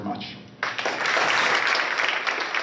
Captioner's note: applause